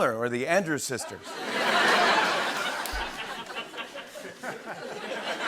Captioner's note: laughter